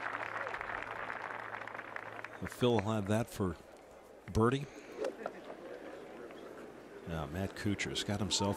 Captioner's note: applause